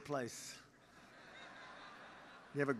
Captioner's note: laughter; laughs